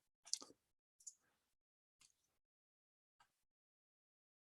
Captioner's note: mouse clicking